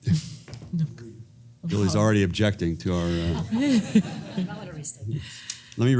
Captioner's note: laugh